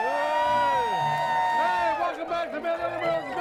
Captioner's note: crowd cheers